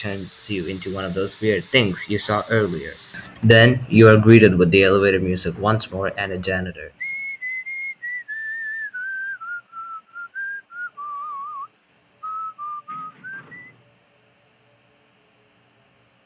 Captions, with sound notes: you into one of those weird things you saw earlier. Then, you are greeted with the elevator music once more and a janitor. [Whistling]